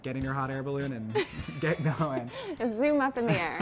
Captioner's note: laughs